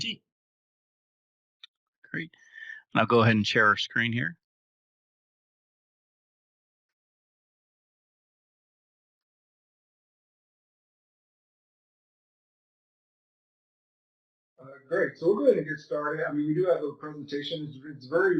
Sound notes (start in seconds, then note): 4.5 pause